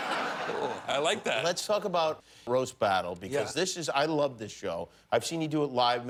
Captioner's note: laughter